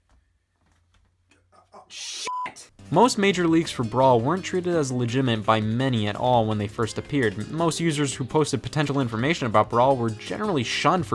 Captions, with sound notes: (beep) Most major leaks for Brawl weren't treated as legitimate by many at all. When they first appeared most users who posted potential information about Brawl were generally shunned